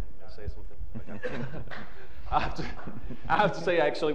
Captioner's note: chuckling